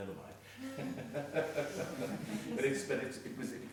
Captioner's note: laughing